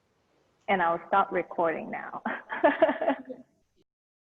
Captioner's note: chuckles